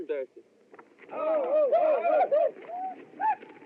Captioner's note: whooping